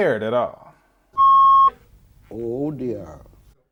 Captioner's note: beep